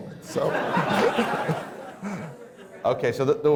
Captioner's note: laughter